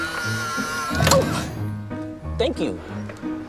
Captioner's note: robot snaps up paper